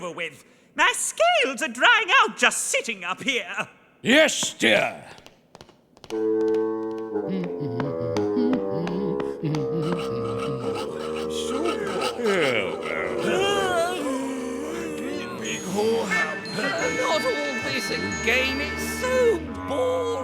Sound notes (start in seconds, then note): 5.1 tapping; 8.1 humming; 13.2 yawning